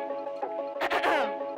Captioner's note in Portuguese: Cof cof